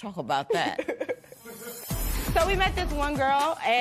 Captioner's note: laughs